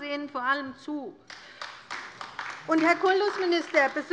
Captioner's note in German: Beifall bei der LINKEN